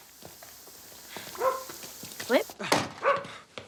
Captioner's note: dog barks